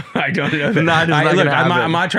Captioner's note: both chuckling